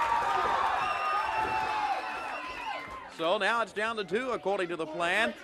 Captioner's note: crowd cheering